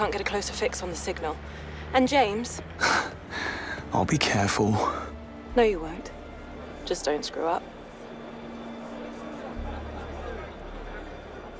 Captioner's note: sighs and gasps